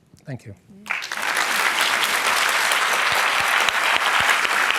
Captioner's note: applause